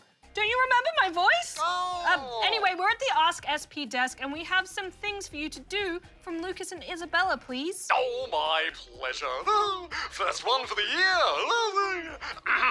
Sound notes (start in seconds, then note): 9.4 laughs; 12.4 clears throat